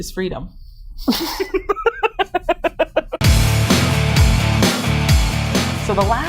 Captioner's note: laughter